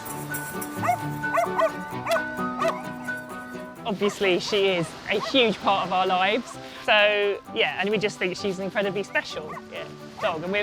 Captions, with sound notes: (dog barking) - Obviously, she is a huge part of our lives. So, yeah, and we just think she's an incredibly special dog